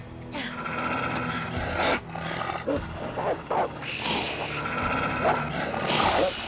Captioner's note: barking; hissing